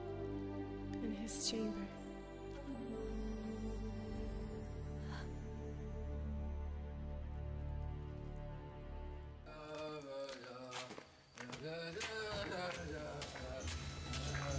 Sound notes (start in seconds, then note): 3.7 light gasping; 9.9 man drunkenly singing